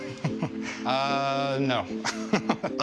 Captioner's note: laughs